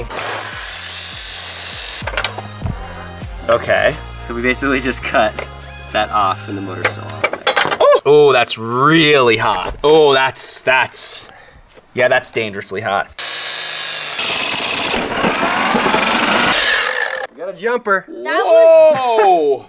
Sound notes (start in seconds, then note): 0.0 sawing noise; 0.2 mellow techno music; 13.2 sawing noise